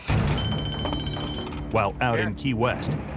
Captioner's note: phone ringing